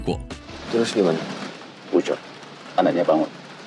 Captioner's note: speaking indonesian